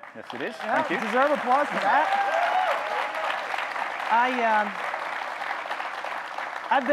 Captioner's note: audience clapping, cheering